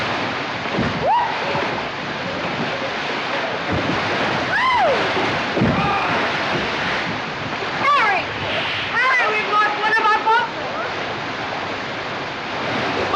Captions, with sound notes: [ Squeals ] [ Squeals ] [ Shouts ] Harry! Harry, we've lost one of our boatmen. What?